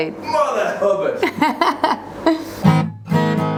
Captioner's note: laughter